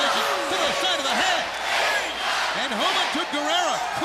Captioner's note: crowd chatter